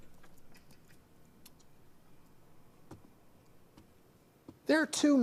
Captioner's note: Steve kisses